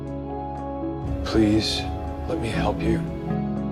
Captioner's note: voiceover